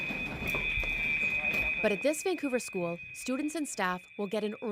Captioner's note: earthquake alarm chimes